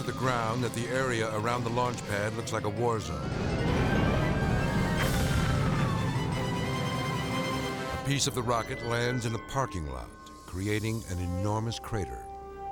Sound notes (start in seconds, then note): 3.1 fire roaring; 5.1 rocket debris smashing